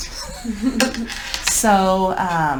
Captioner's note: laughing